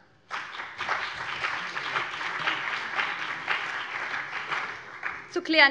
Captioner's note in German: Beifall BÜNDNIS 90/DIE GRÜNEN und vereinzelt CDU